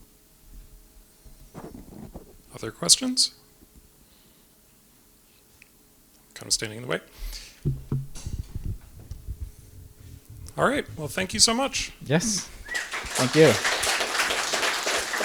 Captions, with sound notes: >> Other questions? All right! Well, thank you so much! (applause)